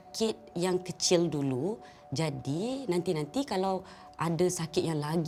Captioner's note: in Bahasa Melayu